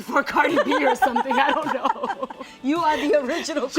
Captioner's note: laughing